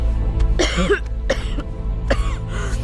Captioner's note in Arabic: سعال